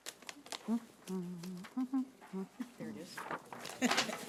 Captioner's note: humming; laughs